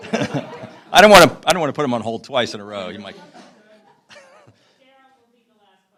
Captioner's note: laughter